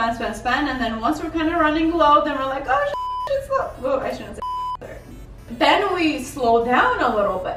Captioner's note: curses